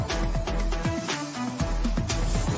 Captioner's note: none